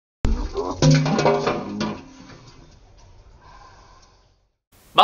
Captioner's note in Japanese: 皿を落とす音